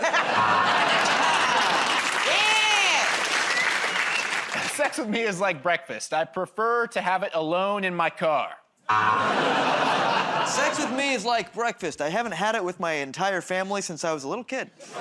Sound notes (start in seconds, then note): 0.3 buzzer; 0.7 applause; 8.9 buzzer